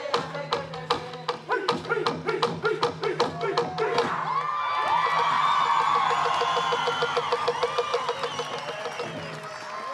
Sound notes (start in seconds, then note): 4.2 cheering, applause